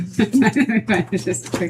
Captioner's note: laughing